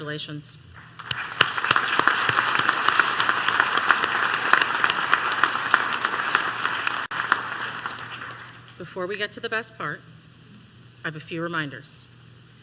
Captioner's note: applause